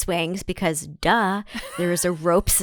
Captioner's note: laughs